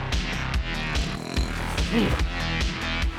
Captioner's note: snoring continues